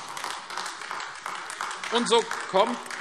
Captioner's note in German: Beifall AfD